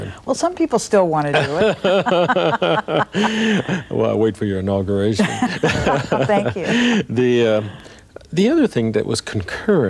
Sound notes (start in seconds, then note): 1.3 laughing; 5.3 laughing